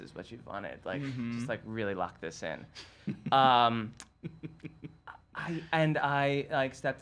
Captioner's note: chuckles